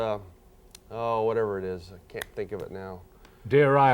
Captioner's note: fingers snapping